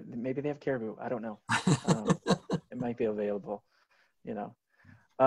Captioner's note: laughs